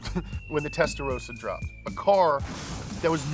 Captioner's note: car booms